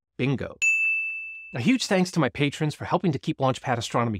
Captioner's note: bell dings